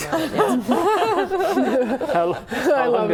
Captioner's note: laughing